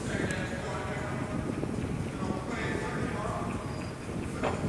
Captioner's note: echoing voices, indistinct chatter